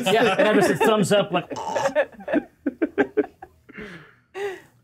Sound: choking

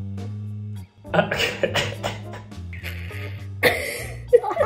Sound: laughs

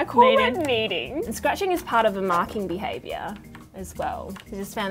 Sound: none

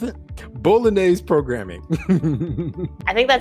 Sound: laughs

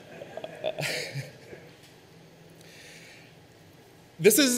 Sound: audience laughs; laughs

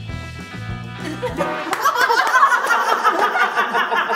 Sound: laughing

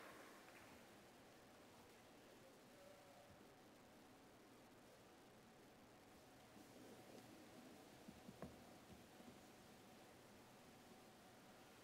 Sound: applause

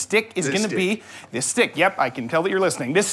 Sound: quietly

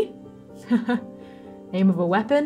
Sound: chuckling

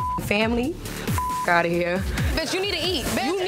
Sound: beep

